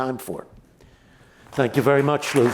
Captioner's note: applause